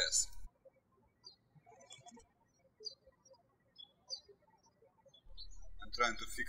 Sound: birds chirping

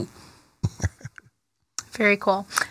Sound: laughs

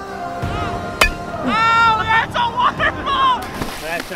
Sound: voiceover

